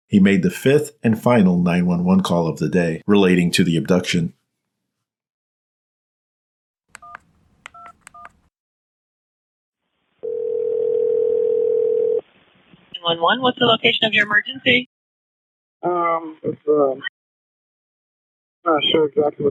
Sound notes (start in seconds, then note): 7.7 numbers beeping; 10.2 phone ringing